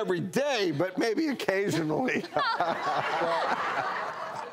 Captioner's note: laughing